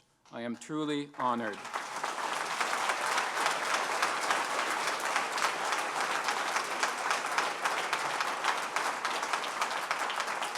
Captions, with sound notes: who is our incoming board chair for the opportunity and privilege to serve as the night president of Algonquin College. I am truly honored. (Applause)